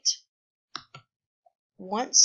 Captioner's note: click